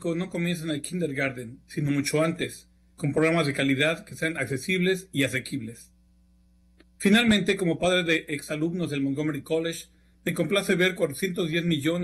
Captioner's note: speaking spanish